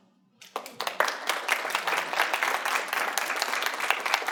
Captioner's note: audience applauding